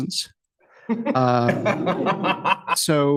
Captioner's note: laughter